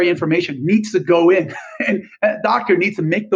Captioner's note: laughs